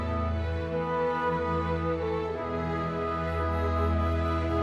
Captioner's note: none